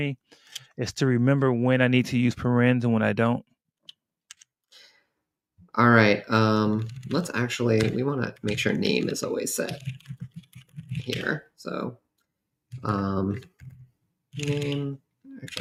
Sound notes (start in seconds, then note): none